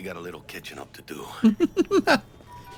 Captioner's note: laughs